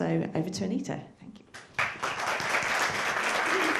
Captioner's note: applause